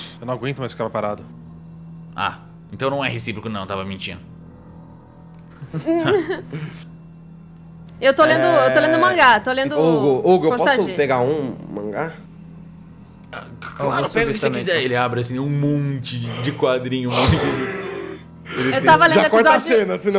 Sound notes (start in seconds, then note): 5.6 laughter; 17.1 sighs